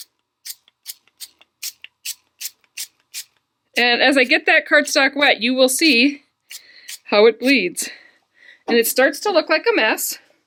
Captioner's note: spraying